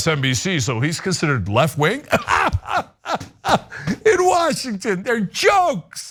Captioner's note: laugh